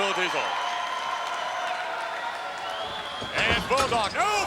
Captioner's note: crowd cheering